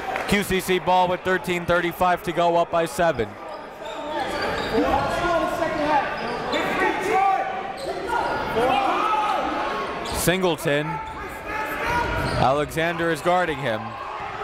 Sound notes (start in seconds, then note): 4.5 coaches yelling; 4.5 crowd talking